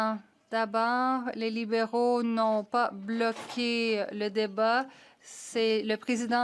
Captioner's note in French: voix de l'interprète